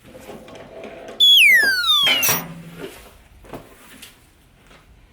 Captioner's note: downward whistling